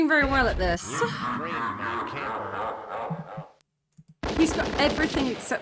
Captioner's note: demonic laugh; gunfire